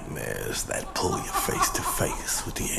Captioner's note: laughing